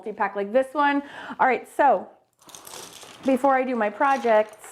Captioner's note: brushes clattering